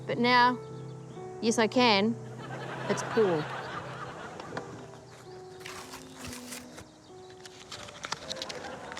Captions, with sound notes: 'But now... yes, I can. 'It's Paul.' (PAPER RIPS)